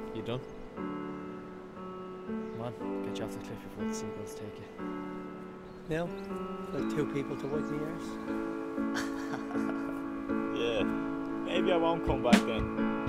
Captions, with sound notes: Ye done? Come on. Get you off the cliff before the seagulls take you. Now- I've two people to wipe my arse. (laughs) Yeah- Maybe I won't come back then.